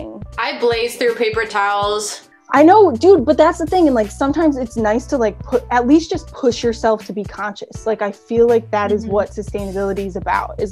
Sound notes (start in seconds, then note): none